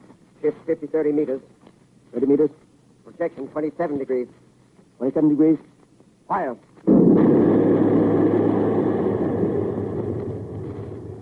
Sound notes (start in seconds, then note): 6.8 heavy gunfire